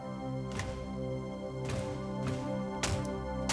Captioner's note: banging